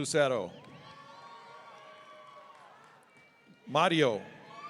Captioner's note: audience cheering